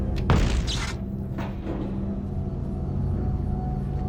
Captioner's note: explosion booms